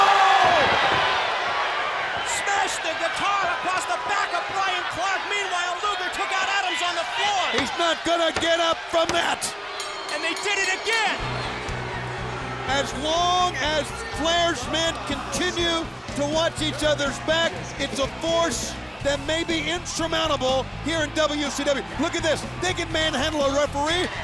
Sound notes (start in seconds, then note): 9.7 bell ringing